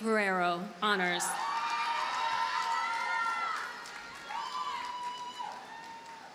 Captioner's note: audience cheers and applauds